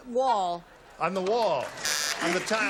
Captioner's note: buzzer